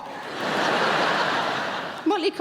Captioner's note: audience laughing